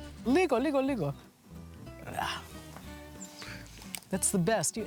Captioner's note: speaking greek